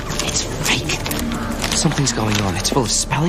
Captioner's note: Șoptind